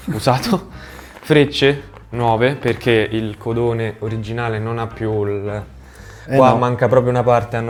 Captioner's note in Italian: sbuffare